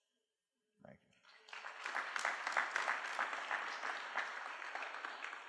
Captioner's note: applause